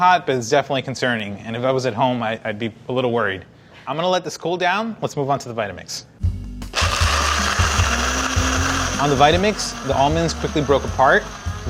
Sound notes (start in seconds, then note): 6.7 blender whirring